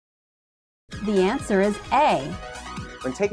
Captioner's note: female announcer speaking